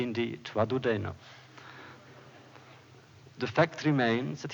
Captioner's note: laughter